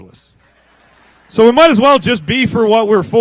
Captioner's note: laughter